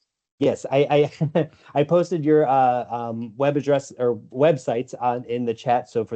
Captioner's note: laughs